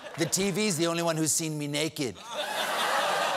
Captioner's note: laughter